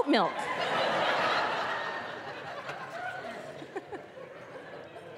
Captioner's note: audience laughing